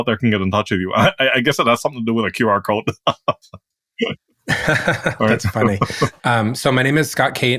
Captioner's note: laugh